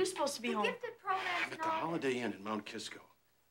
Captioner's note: sighs